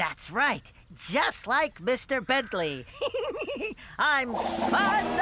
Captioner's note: giggling